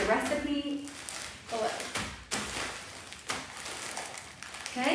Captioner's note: plastic bag crinkles